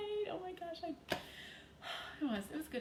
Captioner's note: sighs